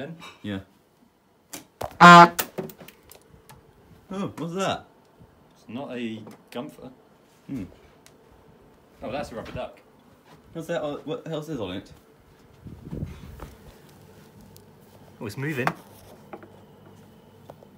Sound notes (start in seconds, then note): 2.0 honk